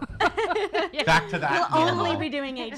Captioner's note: laughs